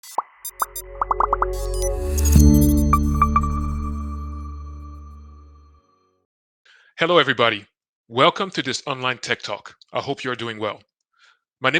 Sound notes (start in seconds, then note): 0.4 chiming music; 0.9 bubbles popping